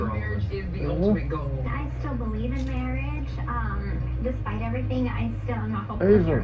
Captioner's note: TV continues playing